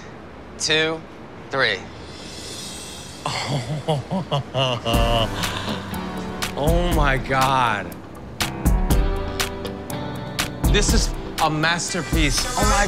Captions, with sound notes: - One, two, three. - [chuckling] Oh... Oh, my God. [upbeat music] This is a masterpiece.